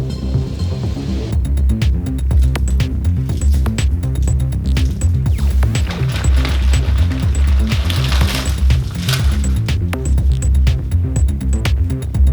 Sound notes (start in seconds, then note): 3.1 candy wrappers rustling; 7.7 techno music